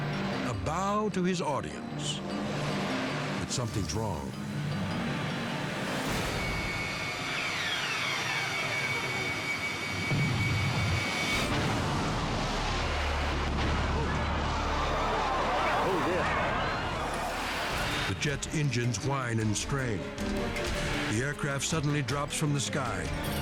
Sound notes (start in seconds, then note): 4.3 unsettling music; 5.9 engines whine; 10.0 crash rumbling; 10.0 explosion thundering; 13.8 crowd gasps